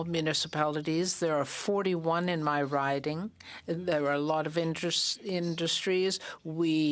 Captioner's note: speaking French